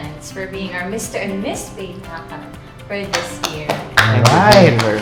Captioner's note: applause